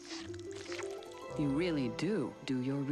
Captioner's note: slurps